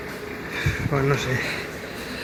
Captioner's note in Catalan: Exhalació